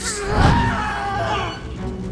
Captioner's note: screaming